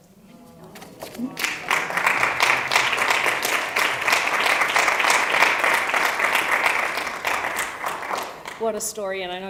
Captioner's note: applause